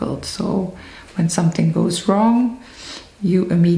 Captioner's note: sniffles